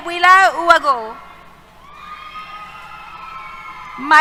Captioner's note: cheers